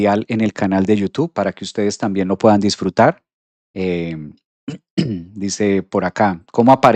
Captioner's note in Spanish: carraspeo